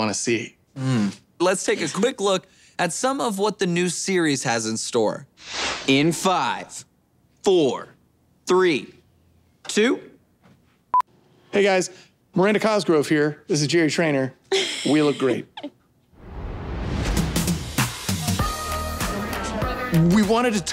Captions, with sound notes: Mm. Let's take a quick look at some of what the new series has in store. In five... four... three... two. [beeping] Hey, guys. Miranda Cosgrove here. This is the Jerry Trainor. [laughing] We look great. We wanted to tow a line